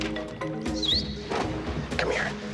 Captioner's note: Evan whistles